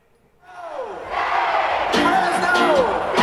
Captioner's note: crowd